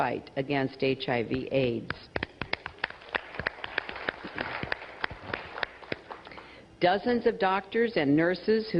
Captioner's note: applause